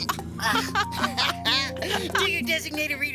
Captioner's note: both laughing